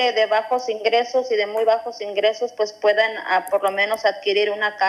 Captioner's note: speaking non-english